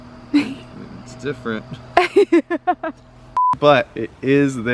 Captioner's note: laughs